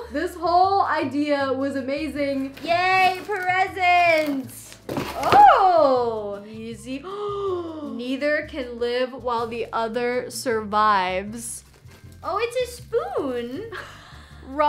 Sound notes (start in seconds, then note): 7.0 gasps; 13.4 laughs